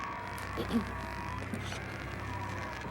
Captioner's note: clears throat